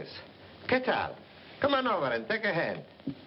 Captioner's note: tomaso speaking spanish